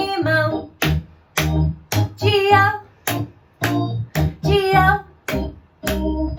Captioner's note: clap, clap, clap